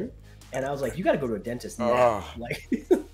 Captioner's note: laugh